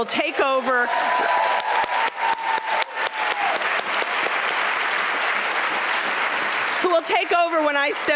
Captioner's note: applause